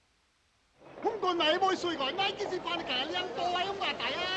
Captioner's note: man speaking Chinese